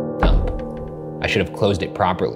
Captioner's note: window thumps